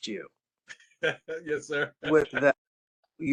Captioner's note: laughter